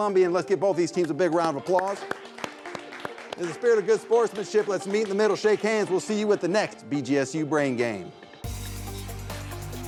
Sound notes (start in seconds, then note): 1.0 audience clapping; 8.1 techno music plays